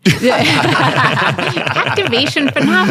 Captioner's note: panel laughing